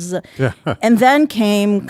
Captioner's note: laughing